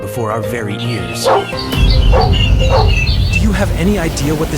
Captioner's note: dog barking